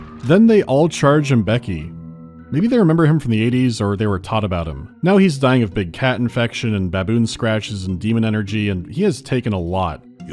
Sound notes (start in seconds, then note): none